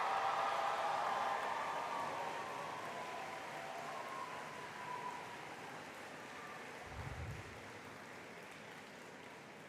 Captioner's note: cheering